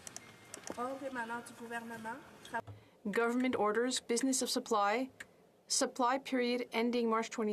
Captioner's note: speaking French